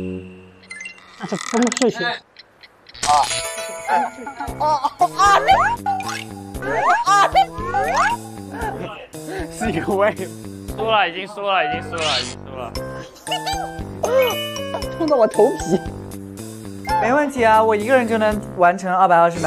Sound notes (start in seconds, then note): 8.3 cries of pain